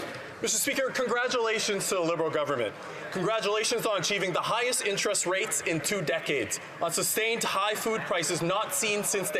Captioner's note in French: voix de l'interprète